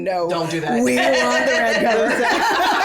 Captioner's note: laughs; all laugh